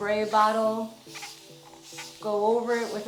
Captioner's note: spray bottle misting